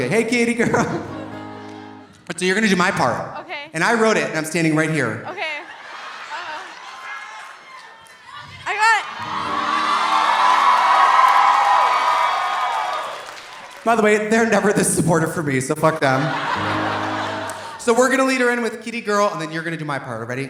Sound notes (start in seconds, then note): 6.5 audience cheering; 8.8 audience applauding; 10.1 audience cheering; 15.8 audience laughing